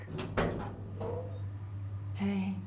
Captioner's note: metal door creaking